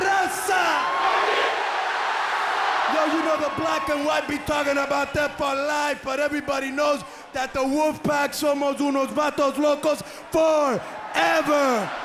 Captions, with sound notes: HURRICANE BOBBY... >> HEY YO, LET ME SPEAK ON THIS [SPEAKING IN FOREIGN LANGUAGE] >> [CROWD CHEERING] >> [SPEAKING IN FOREIGN LANGUAGE] >> [CROWD CHEERING] >> YO, YOU KNOW THE BLACK AND WHITE BE TALKING ABOUT THAT FOR LIFE BUT EVERYBODY KNOWS THAT